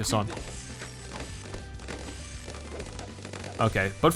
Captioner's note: balloons popping